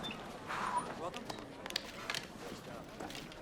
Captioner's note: indistinct conversation